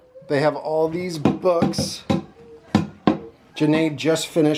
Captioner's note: vuvuzela blats; wood tapping